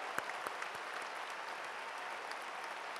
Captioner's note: cheers and applause